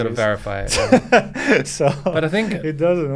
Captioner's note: laughing